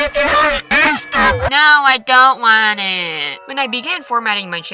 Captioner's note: whiny